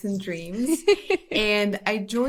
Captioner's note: laughs